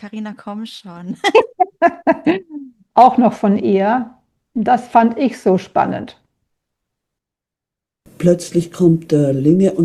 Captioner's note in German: gelächter